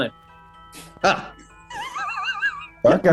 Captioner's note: sniggering